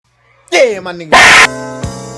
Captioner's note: paaahgh